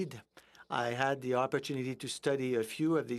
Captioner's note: speaking in French